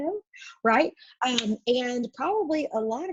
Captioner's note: clap